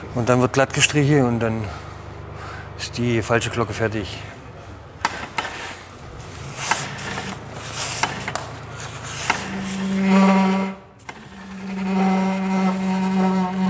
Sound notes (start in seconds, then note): 9.2 squeaking